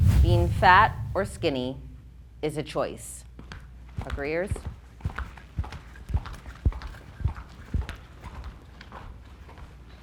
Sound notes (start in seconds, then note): 5.6 footsteps clomping